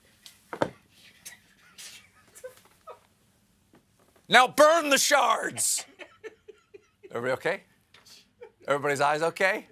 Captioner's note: laughter